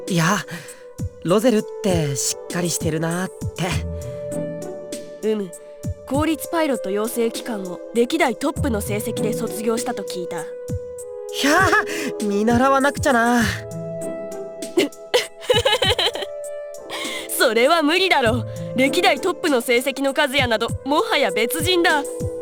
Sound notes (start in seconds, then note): 15.0 laugh